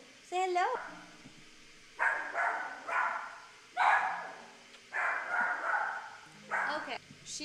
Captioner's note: dog Barking